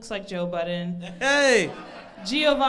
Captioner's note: crowd laughs